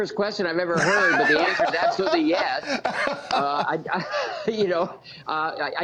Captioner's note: laughter